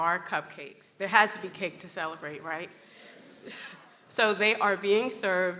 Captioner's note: laughs